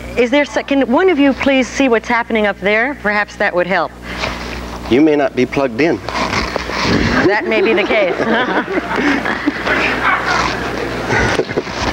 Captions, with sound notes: Is there, can one of you please see what's happening up there? Perhaps that would help. - You may not be plugged in. - That may be the case (laughs). (audience laughs)